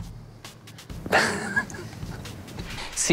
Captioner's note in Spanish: Risas